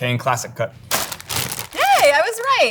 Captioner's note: plastic crinkling